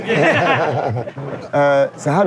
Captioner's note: laughing